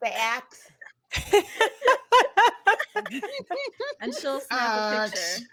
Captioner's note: laughing